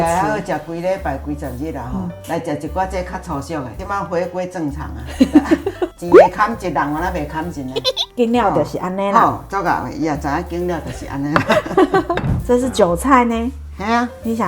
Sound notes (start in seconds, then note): 7.7 hee-hee-hee